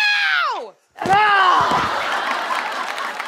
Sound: yells

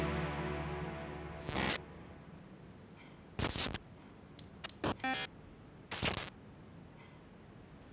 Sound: electronic distortions

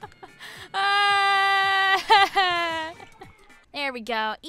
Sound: chuckles; distressed yelling

